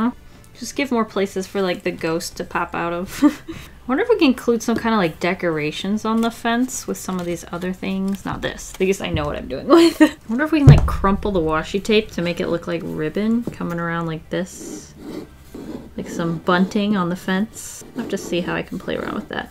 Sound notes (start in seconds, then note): 3.0 laughs; 9.8 laughs